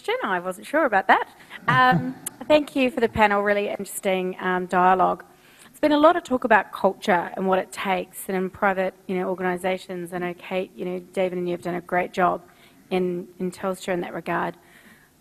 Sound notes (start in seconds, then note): 1.7 audience laughs